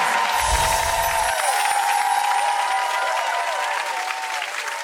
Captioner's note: audience cheering